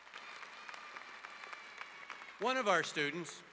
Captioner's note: audience applause